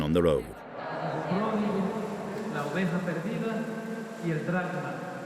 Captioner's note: Spanish spoken audio